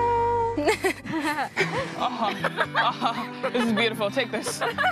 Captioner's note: SciGirls laugh